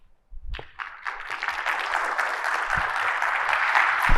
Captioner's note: audience applauds